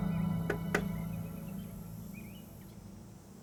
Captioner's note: knocking